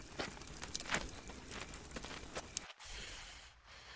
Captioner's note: steps fading away; heavy breathing